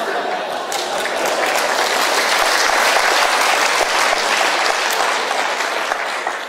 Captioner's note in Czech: potlesk